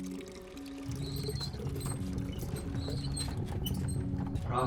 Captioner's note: cart squeaking